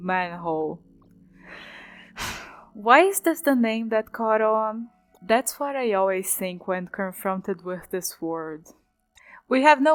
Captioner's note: sigh